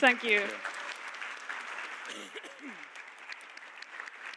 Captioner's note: Aplodit